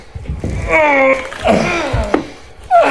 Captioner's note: heavy breathing